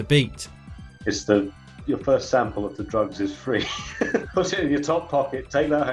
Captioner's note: laughs